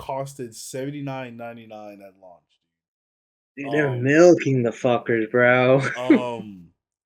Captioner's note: laughs